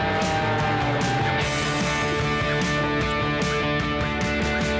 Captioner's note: airplane whizzing